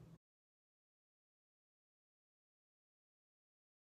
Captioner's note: silence